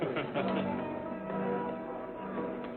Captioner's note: men chuckling